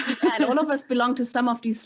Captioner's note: laughs